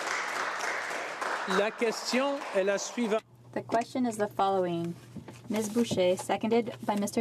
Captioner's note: applause